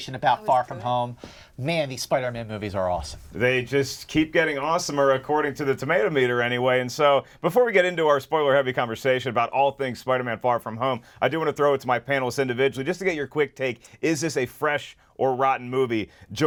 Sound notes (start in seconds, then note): none